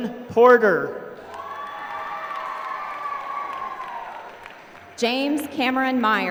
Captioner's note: applause